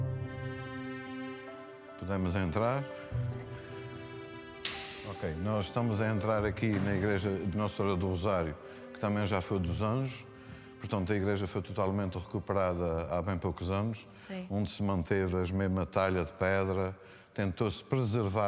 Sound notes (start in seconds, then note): 2.3 speaks in foreign language